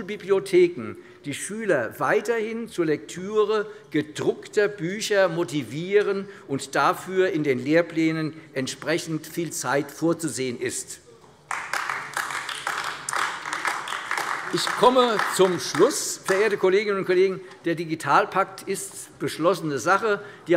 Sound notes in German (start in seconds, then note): 11.4 Beifall AfD